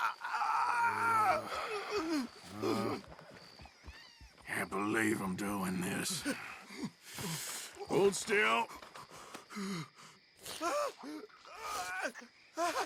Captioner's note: sighs